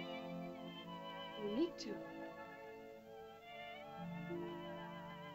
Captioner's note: soft music; girl speaks in caveman language; soft music